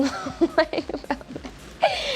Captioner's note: laughs